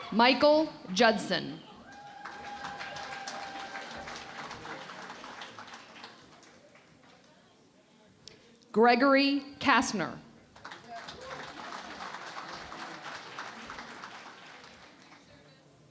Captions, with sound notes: Michael Judson. [ Applause ] Gregory Kastner. [ Applause ]